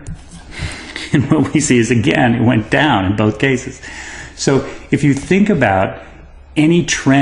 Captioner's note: laugh